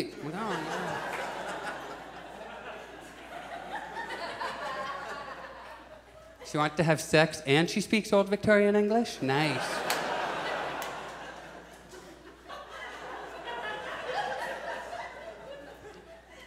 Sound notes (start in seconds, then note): 0.2 audience chuckles; 9.1 audience laughs; 12.1 audience chuckles